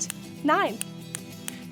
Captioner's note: snapping